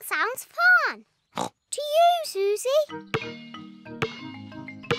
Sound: snorts

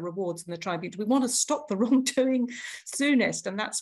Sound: laughs

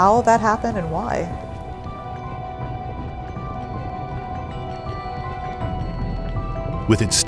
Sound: mysterious music; lava sloshing

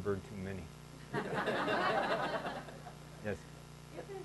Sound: laughing

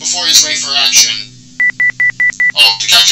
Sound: beeping

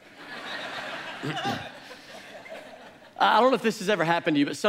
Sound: congregation laughs

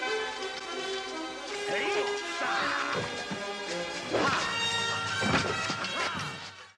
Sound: assorted murder noises

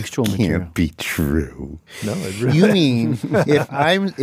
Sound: laughs

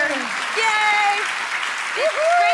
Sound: audience applauds

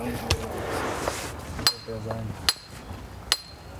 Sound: chiselling

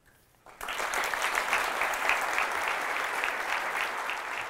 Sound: applause

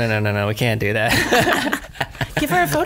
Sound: laughs

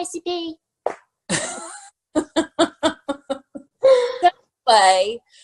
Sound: both laughing

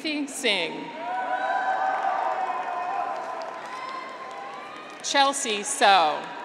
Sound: graduates cheer

